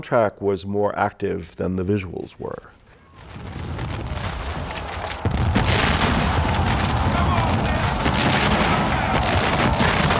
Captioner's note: gunfire, soldiers yelling